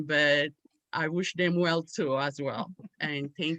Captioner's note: none